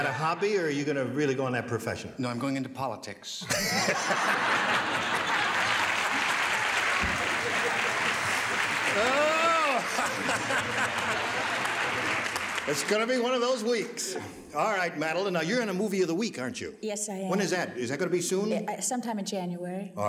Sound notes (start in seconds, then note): 4.9 laughing and applauding